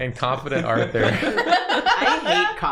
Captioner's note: laughter